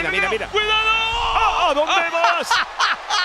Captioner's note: laugh